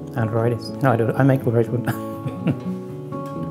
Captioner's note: chuckles; soft music